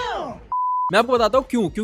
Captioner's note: beep